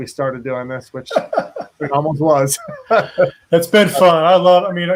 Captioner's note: laughs